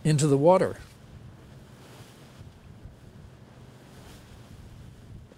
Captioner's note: water crashing